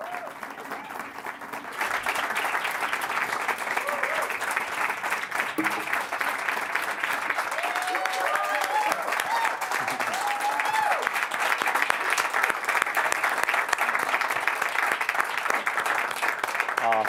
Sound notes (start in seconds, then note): 6.3 applause